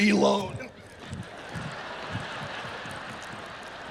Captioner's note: audience laughs